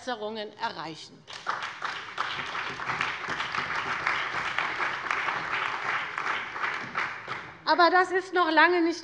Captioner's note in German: Beifall bei der CDU und dem BÜNDNIS 90/DIE GRÜNEN